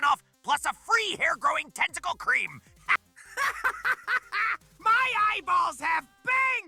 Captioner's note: giddy laughter